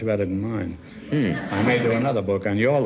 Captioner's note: audience laughs